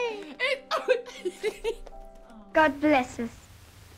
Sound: crying and laughing

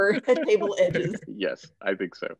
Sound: laughter

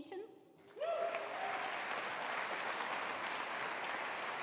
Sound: audience applauding

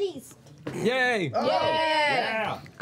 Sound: cheering

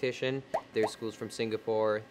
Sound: pop, pop

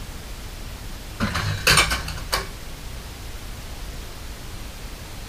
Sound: light crashing

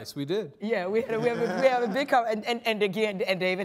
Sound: stammering

